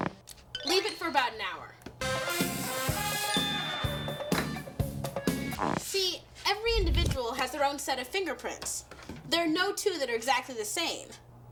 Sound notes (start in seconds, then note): 3.2 bell dings